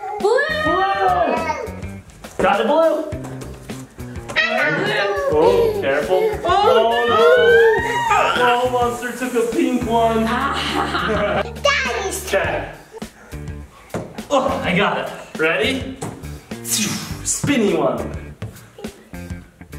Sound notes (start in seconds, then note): 6.4 lava monster giggling; 10.2 mom and Dad laughing